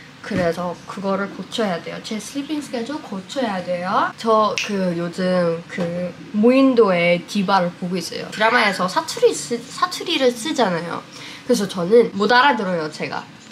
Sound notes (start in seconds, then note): 10.6 dialect